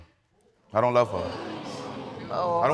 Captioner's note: audience exclaiming